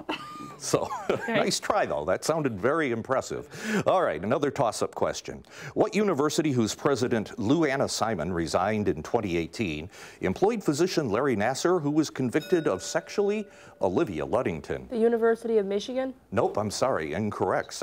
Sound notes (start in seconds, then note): 0.4 laughs; 12.2 bell ringing